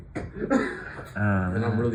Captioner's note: laughter